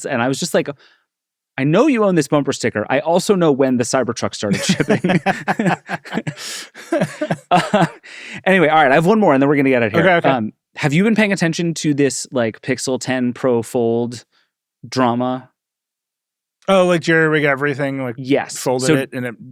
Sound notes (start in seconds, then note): 4.5 laugh